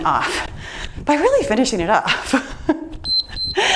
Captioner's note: laughs; timer beeps